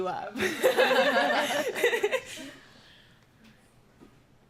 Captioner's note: laughter